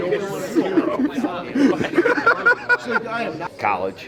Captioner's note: group laughing